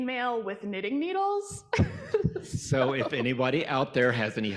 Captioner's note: laughs